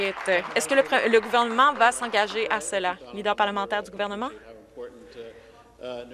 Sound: some Applause

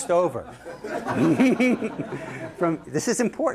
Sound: laughter

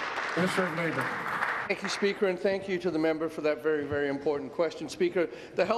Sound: applause

